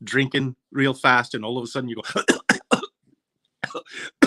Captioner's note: coughing